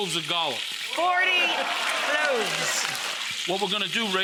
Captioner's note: audience cheers